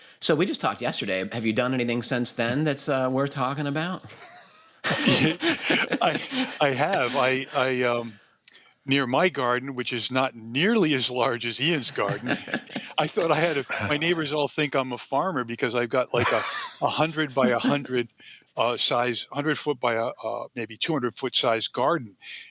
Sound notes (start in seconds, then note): 4.1 laughter